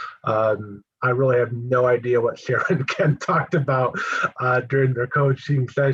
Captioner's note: laugh